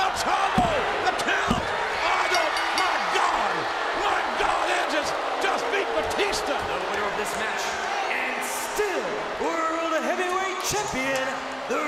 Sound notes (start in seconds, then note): 1.7 audience jeers; 2.2 bell rings